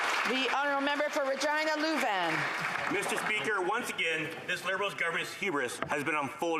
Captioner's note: applause